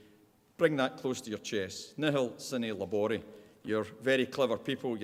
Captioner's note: speaking Latin